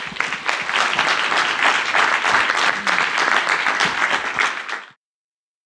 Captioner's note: audience applause